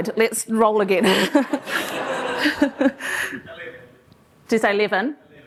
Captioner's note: laughter